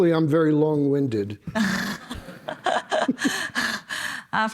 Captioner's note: chuckling